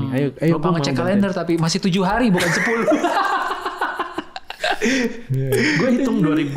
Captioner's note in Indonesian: tertawa